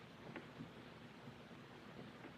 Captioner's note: none